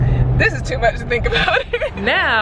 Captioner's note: laughs